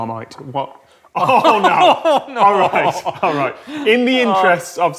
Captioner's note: both laugh in horror